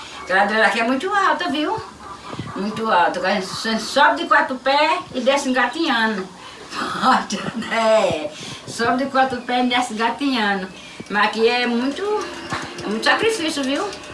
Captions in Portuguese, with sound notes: Que a ladeira daqui é muito alta viu? Muito alta. A gente sobe de quatro pés e desce engatinhando. [RISOS] Sobe de quatro pés e desce engatinhando. Mas aqui é muito, muito sacrifício, viu?